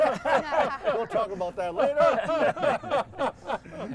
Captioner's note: everyone laughing